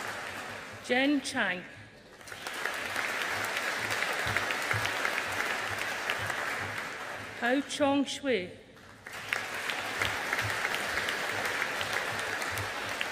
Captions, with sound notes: Zhen Xiang. (AUDIENCE APPLAUDING) Haochong Xue. (AUDIENCE APPLAUDING)